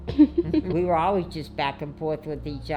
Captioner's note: laughing